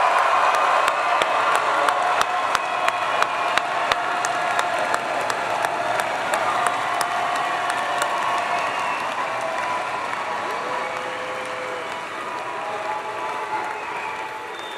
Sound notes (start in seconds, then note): 0.0 applause; 4.5 cheers